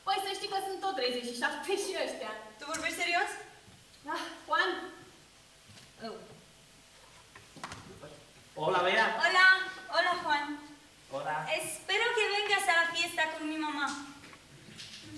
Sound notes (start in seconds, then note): 8.7 Spanish